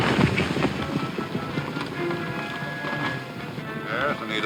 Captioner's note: horse hooves pounding; dramatic music